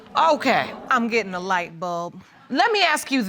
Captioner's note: audience groans